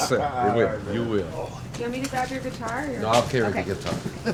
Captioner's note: indistinct chatter